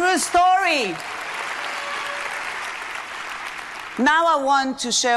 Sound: audience applauding

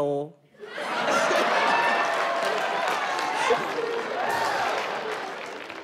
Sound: audience laughing and clapping

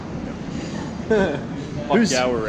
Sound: man laughs

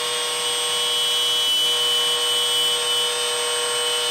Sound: saw cutting wood

